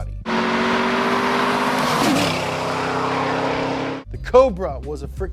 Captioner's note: car engine revving